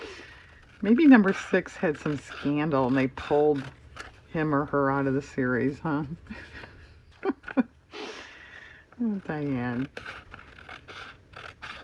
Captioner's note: laughs